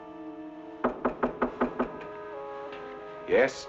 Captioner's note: fist rapping